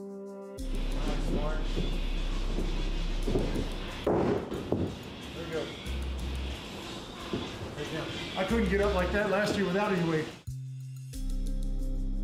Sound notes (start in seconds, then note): 0.1 dramatic music; 0.7 ring thudding